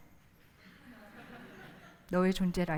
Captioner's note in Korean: 웃음